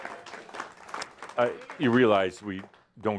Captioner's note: some applause